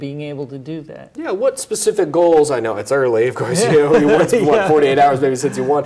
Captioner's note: laughs